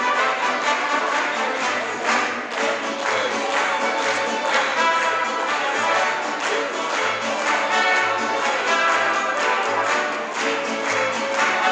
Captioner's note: crowd clapping to beat; mariachi music playing